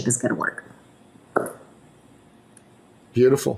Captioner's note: glass clinking